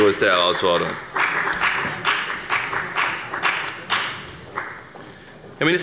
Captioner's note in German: Beifall bei der FDP